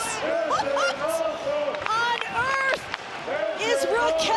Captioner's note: chuckles